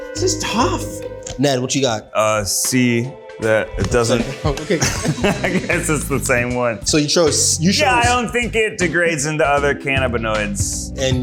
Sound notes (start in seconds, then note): 4.1 laughs